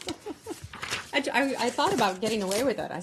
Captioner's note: laughter